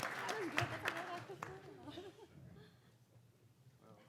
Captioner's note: audience applauding; speaking faintly